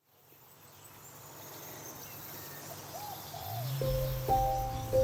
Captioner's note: birds; delicate music